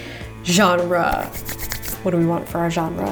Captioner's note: hands rubbing